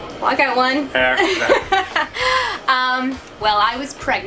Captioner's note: laughs